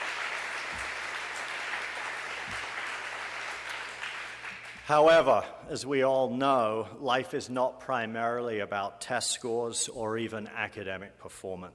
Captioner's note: applause